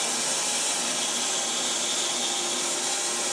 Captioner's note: saw whirring